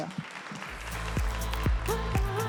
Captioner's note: applause